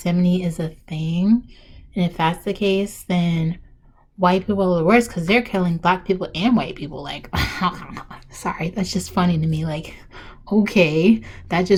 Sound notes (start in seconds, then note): 7.4 really ugly laugh right here